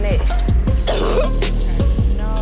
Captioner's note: sick person coughs